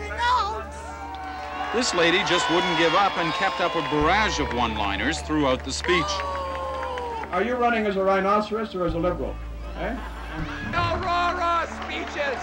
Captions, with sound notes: Know you're lost without your notes! [cheering] Reporter:This lady just wouldn't give up and kept up a barrage of one-liners throughout the speech. Boo! Are you running as a Rhinoceros or as a Liberal? Eh?